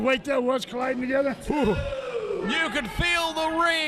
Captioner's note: shudders